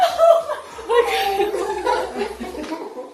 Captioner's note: sobs